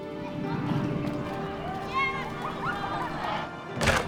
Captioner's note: children playing